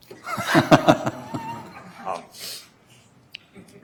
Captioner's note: laughing